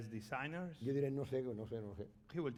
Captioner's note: speaking spanish